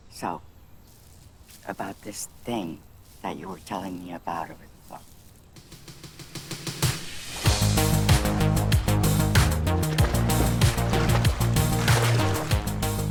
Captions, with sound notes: So, about this thing that you were telling me about over the phone. (upbeat, cheery music) (water swishing)